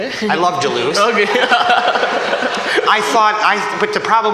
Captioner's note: laughter